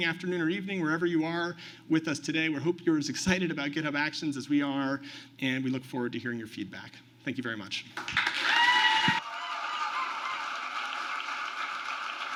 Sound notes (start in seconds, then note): 8.0 applause